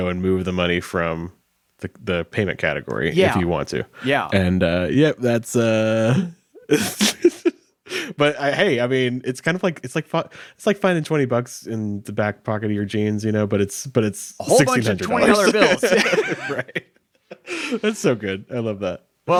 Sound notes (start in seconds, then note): 6.6 chuckles; 14.4 laughs